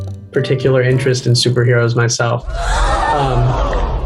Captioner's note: people gasping